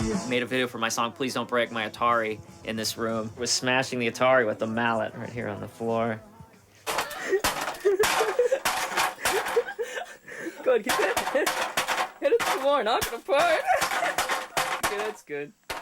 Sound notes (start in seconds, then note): 6.8 banging; 8.9 laughing